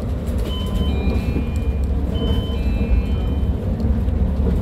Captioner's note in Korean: 하차벨 소리